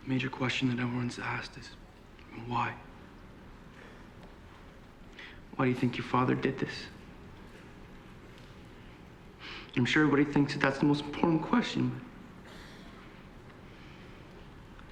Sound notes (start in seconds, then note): 7.8 voice breaking